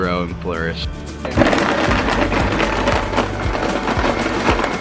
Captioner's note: blender blending